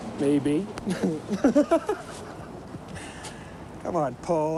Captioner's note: Mark laughing